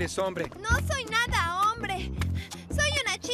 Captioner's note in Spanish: respirando agitada